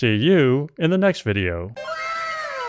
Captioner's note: anime "wow!" sound effect